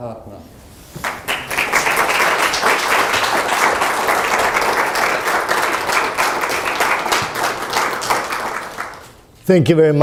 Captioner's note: audience applauds